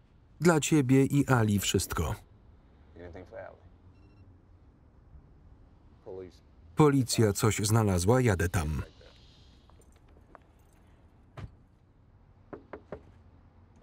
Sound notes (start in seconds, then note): 3.9 phone beeps